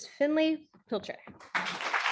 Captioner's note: audience applauding